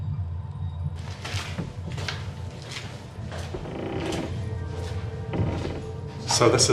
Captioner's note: footsteps